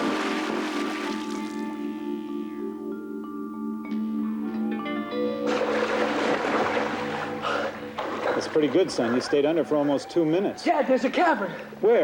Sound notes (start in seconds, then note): 0.0 water splashing; 0.2 intense music; 7.4 Will panting